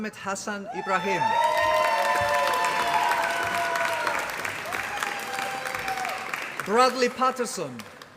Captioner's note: applause